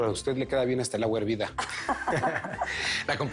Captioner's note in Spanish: Risas